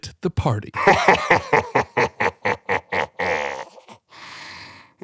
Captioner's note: maniacal laughter